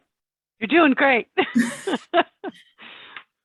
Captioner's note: chuckles